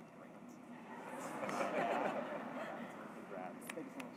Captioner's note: laughing